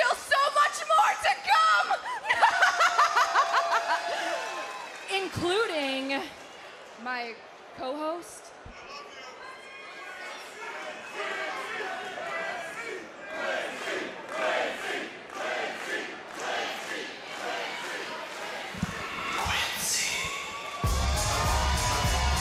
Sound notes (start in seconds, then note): 2.1 laughs; 9.1 crowd chants "quincy"